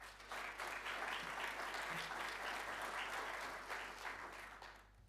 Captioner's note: audience applauding